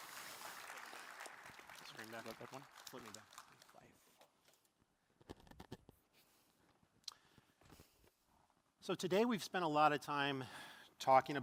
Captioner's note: applause